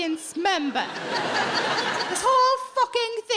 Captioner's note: audience laughing